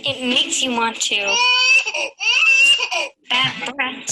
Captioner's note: baby cries